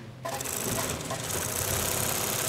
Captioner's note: machine rattling